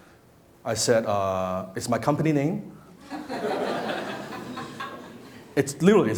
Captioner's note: laughing